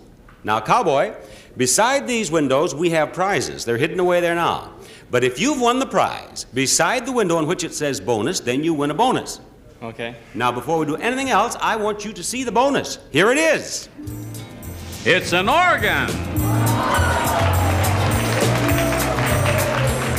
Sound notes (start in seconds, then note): 16.3 audience applauding